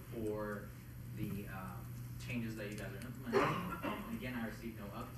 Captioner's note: coughing